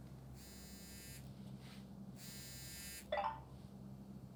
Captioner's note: cellphone